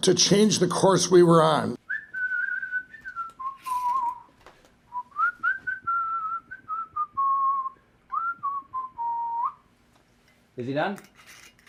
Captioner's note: whistling